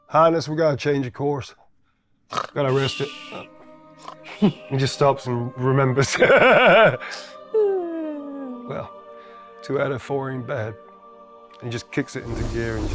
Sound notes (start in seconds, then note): 2.4 snoring; 7.6 laughing